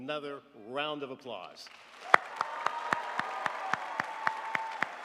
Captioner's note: crowd applauds